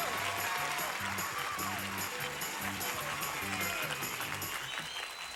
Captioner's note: audience applauding